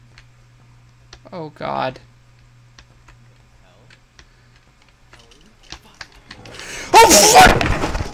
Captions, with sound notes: *Quavering* Oh god *Creepy noises* *GASP* OH FUCK